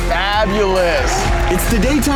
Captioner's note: crowd cheering